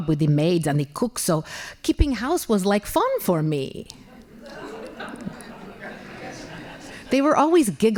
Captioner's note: laughing